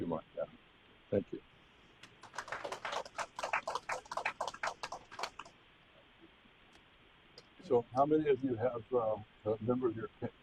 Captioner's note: applause